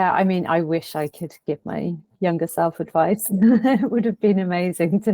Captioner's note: chuckles